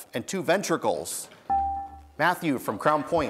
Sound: buzzer beeps

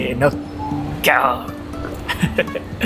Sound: lion roar in Japanese

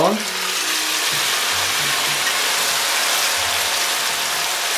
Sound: oil sizzling

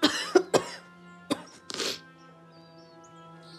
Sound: sniffles

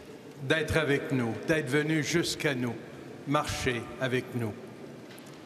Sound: speaking French

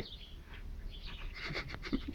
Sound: laughter

